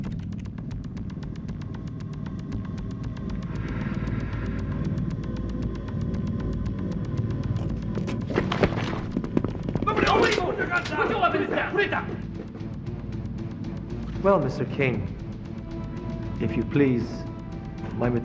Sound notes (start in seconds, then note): 3.4 exhales